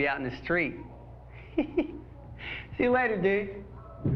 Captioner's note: chuckles